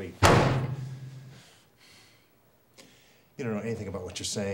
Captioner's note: hand slams loudly